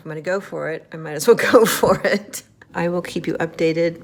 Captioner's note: laughing